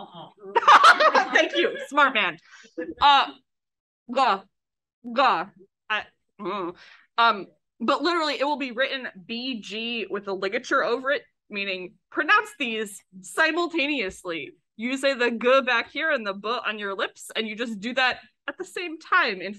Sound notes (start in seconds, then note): 0.5 laughs; 5.3 hums “I don’t know”